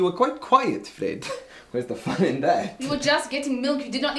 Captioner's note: laughs